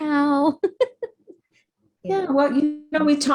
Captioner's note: laughs